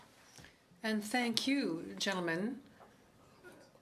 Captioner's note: speaking French